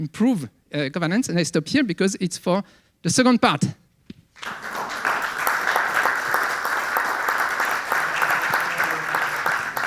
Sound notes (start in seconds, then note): 4.4 audience applauding